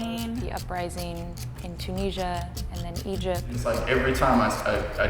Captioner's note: voiceover